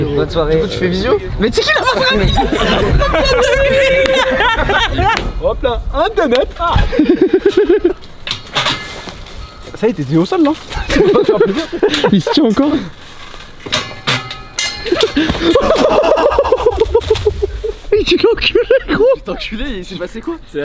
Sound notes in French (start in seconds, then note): 4.1 rires; 7.2 rire